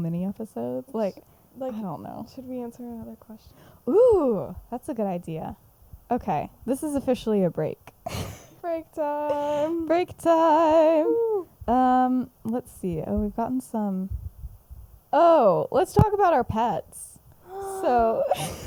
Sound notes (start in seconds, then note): 17.4 gasps